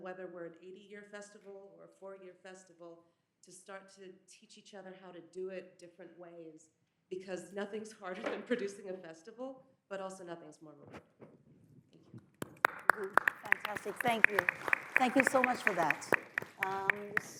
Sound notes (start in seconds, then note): 12.3 audience applauds